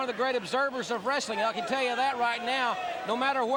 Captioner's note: crowd chatter